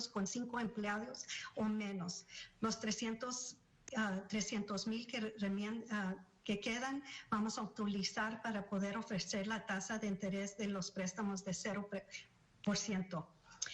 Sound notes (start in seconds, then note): 1.9 speaking spanish